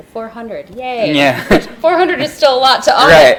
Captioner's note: laughs